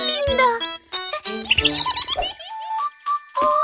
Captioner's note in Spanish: Sonido de pájaro